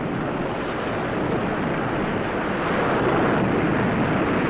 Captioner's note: none